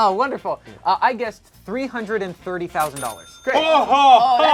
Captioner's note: loud dinging; loud yelling